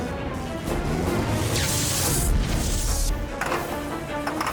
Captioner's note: gunshots; engine stalling